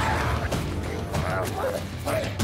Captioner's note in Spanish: Golpes; Quejidos